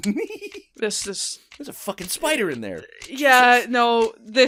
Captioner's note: giggles